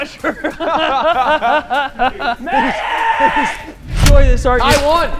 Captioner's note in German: lachen